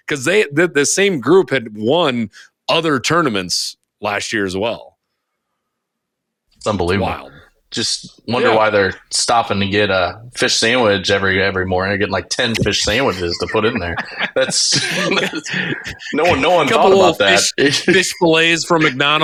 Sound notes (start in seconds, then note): 12.5 laughing